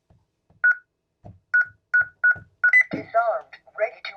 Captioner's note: beeping